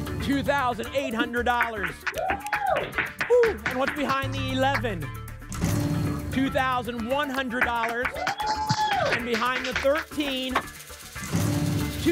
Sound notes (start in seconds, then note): 3.0 applause; 7.2 applause and cheering